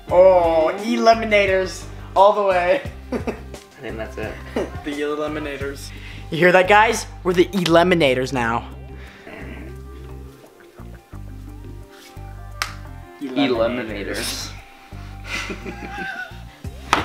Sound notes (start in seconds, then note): 3.0 laughs; 12.5 taping; 15.2 laughing; 16.8 taps